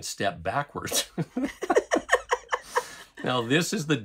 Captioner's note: laughing